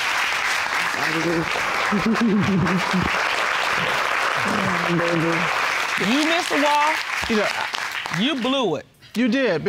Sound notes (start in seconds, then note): 1.9 laughs